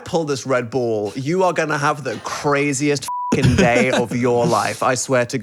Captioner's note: beep